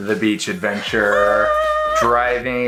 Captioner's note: laughs loudly